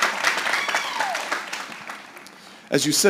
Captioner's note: applause